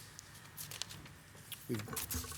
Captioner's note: paper shuffling